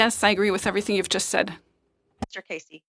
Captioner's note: speaking French